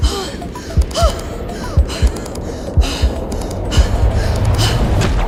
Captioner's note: heavy breathing